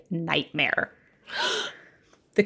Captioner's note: gasps